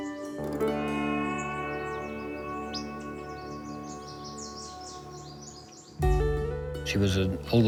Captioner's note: birds singing